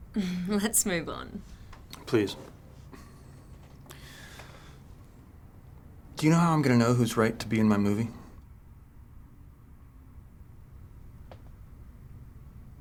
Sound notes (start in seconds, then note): 0.3 chuckles; 3.8 sighs